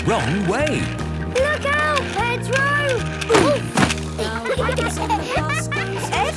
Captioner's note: laughter